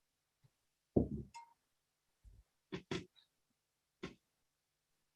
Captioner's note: thumping